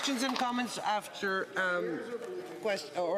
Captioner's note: some Applause